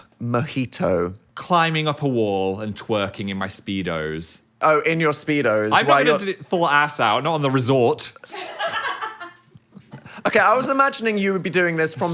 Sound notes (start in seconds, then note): 9.4 crew laughs